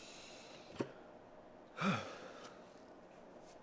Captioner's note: Jesse takes a deep breath